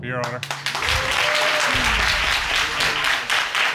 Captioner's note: applause